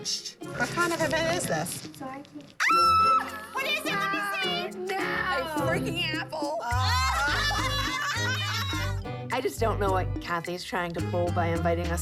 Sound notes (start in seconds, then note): 2.0 squeals; 6.7 laughter